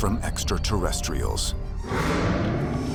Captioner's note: bang